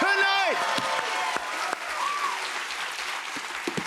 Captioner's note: cheers and applause